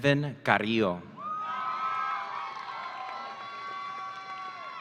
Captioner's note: audience cheering